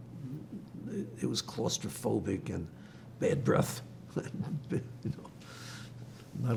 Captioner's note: laughing